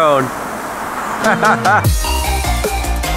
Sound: upbeat music; laughs

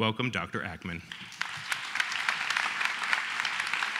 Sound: applause

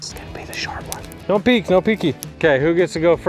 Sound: sticks cracking

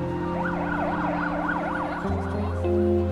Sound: emergency sirens in the distance

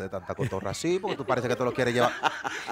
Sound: laughs

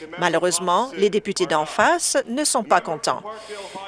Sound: none

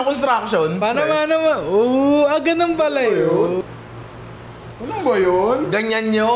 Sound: laughs

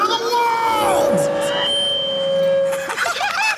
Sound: feedback whines; Jokers laughing

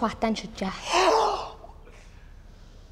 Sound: both gasping

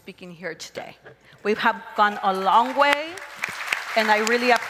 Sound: crowd applauds and cheers

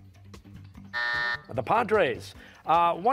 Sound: buzzer

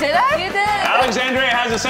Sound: claps

